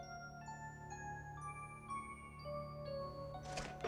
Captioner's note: gunshots firing